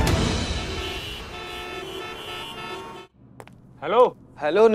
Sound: car honking

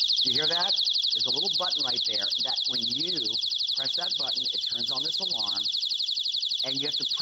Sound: electronic voice

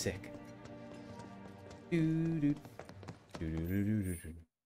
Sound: humming

